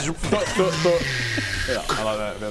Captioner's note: zzzzzzzzrcchkha